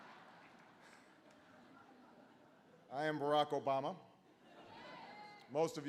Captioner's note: laughter